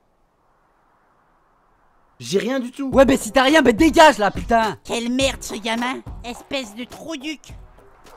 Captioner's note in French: none